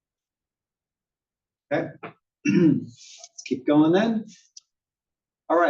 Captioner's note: cough